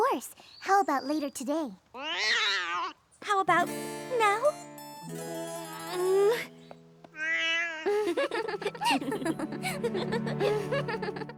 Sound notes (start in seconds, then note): 1.9 opal meows; 5.4 groans; 7.1 opal yowls; 7.8 both laugh